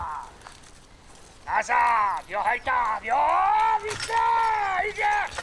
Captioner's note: man shouting in Polish